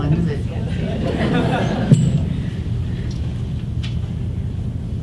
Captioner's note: audience chuckles